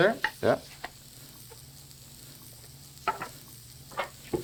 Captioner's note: pan sizzling